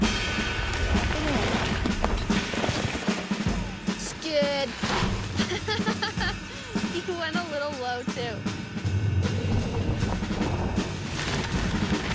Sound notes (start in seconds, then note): 0.2 drum music; 5.3 laughs; 9.4 drum music